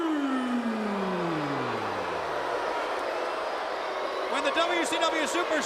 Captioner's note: crowd chatter